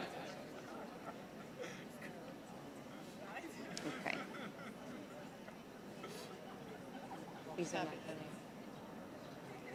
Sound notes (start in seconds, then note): 0.1 audience laughing; 5.0 audience chattering